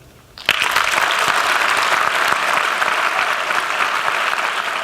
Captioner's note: applause